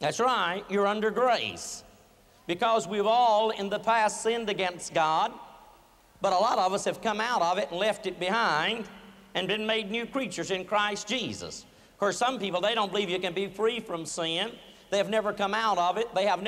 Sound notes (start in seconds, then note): none